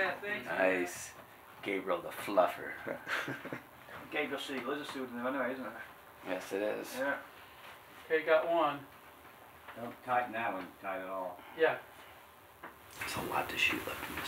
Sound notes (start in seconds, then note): 2.7 laughing